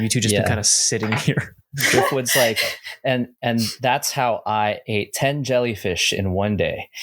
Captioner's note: laughter